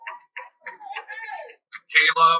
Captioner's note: cheering